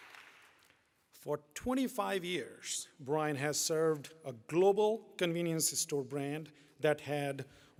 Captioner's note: applause